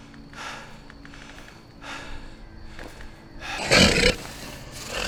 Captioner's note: Robert breathing heavily; werewolf growling